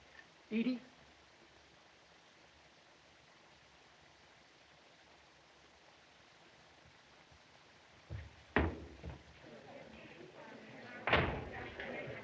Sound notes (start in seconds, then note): 9.1 chattering